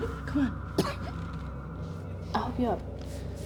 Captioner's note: Claire coughs